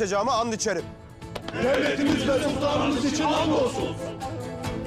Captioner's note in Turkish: Hep bir ağızdan